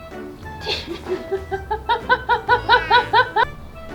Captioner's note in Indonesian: tertawa